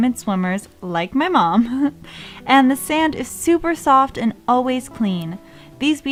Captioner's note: haha